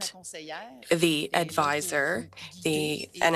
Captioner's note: speaking French